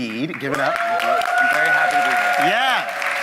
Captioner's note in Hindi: वाहवाही